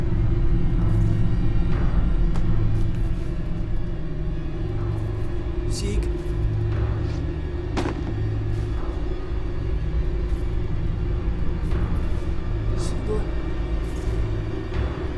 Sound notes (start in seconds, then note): 7.7 book thuds; 13.3 suspenseful music